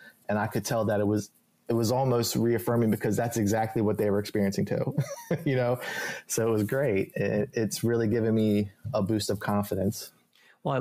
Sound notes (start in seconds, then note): 4.8 laughs